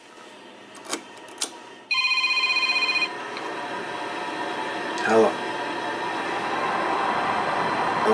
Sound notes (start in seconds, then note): 1.9 telephone ringing